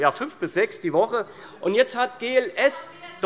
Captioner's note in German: Zurufe